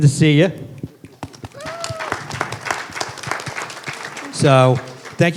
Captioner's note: applause